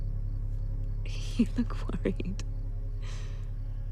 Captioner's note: chuckles